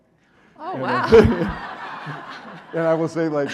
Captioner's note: audience laughing